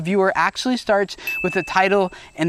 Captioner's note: dinging